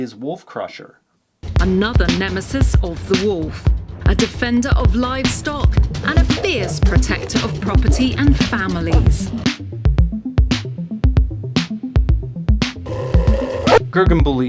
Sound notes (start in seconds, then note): 10.6 very scary dog barking